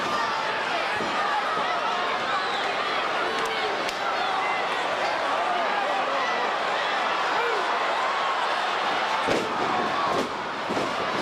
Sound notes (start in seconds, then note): 1.9 crowd chattering; 1.9 stage clattering